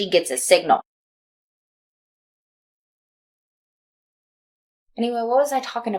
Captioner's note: silence